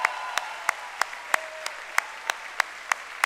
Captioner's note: cheering and applause